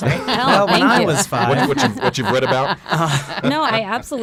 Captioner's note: all laugh